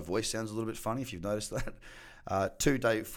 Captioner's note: chuckles